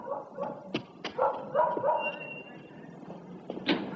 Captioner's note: dog barking